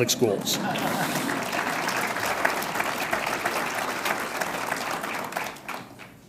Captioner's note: audience laughs and applauds